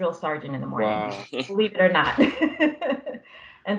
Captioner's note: laughter